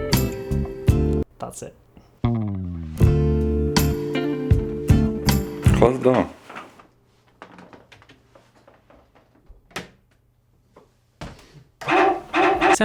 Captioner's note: sexy Music; sexy Music; dog barks